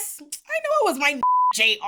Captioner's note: beep